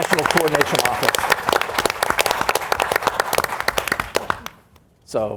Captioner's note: audience applauds